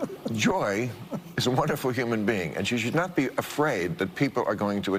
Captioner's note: laughter